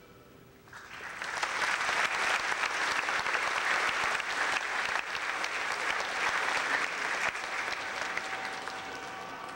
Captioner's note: clapping